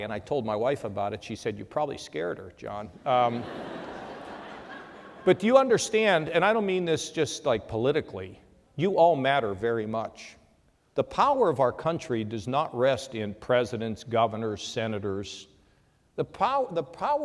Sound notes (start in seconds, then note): 3.0 laughter